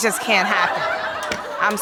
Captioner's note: audience laughing